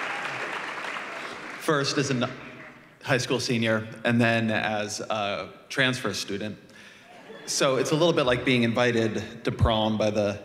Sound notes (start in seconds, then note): 0.0 applause; 7.1 laughter